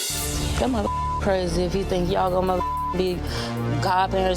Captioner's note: beep